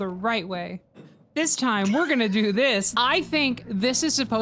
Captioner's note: laughs